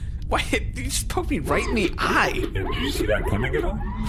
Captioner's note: extremely sardonic